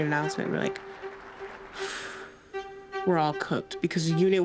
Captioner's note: exhales sharply